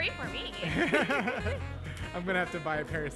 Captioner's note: both laughing